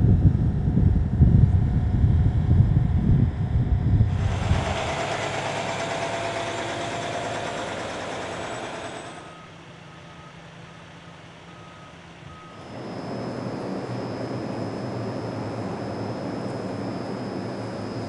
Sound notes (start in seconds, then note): 0.2 wind, airplane drone; 4.4 semi-truck engine; 8.9 backup sound; 12.6 air whirring